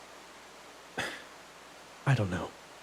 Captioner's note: sigh